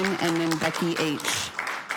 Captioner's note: cheering/Applause